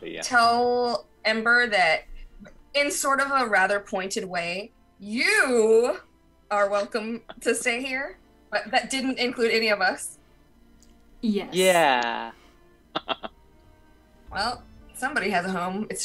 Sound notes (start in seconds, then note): 12.9 laughs